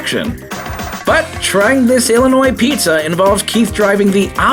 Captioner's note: TV Static